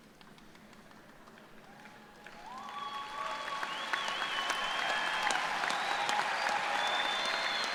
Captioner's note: cheers and applause